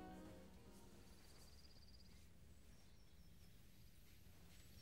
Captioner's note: birds chirping